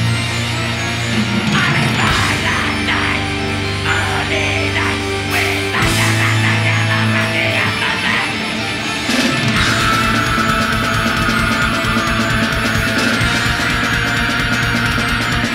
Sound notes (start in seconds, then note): 9.6 energetic metal music; 9.6 screaming